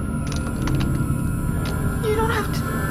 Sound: gun cocks

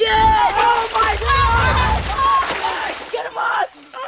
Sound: screaming

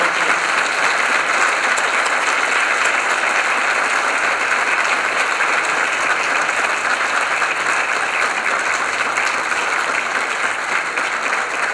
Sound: applause

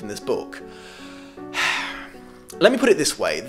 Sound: annoyed sigh

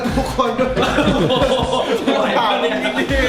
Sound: awkwardly laughing

